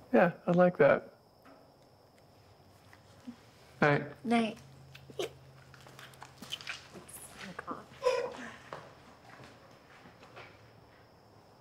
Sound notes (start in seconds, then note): 7.6 Joslyn giggling